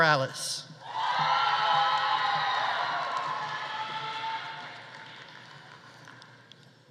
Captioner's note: audience cheering; audience applauding